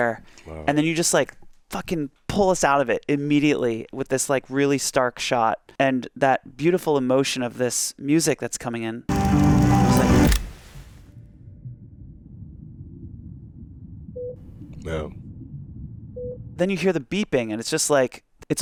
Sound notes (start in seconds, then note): 9.1 film clicks; 9.1 gentle ambient music; 9.1 dramatic music; 14.2 monitor beeps; 16.2 monitor beeps